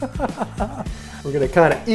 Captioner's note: laughter